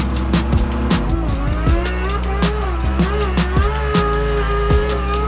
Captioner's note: car revs loudly